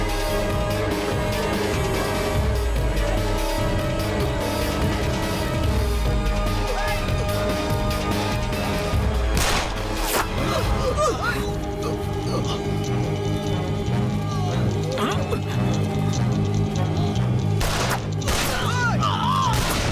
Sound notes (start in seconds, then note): 9.3 gun shots; 10.8 man struggling